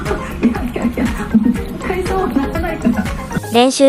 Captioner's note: laughs